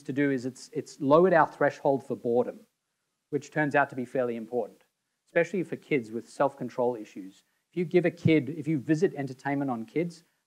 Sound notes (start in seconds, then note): none